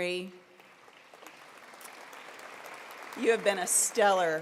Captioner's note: applause